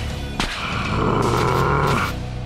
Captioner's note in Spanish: Gruñe dolorosamente